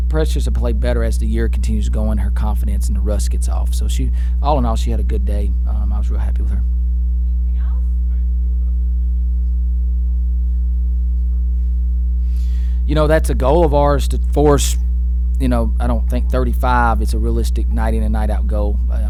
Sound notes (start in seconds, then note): 7.3 voiceover; 8.2 reporter asks question quietly